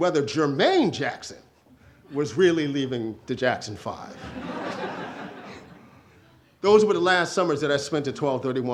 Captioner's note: audience laughter